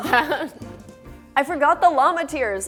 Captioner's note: laughter